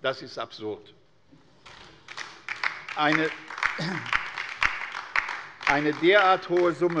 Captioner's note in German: Beifall bei der LINKEN